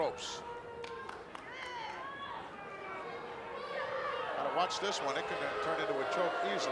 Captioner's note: applause